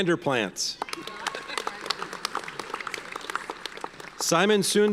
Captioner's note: audience applauds